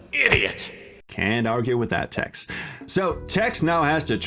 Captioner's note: pipe pummeling